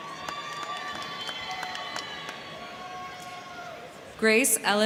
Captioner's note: crowd clapping; crowd cheering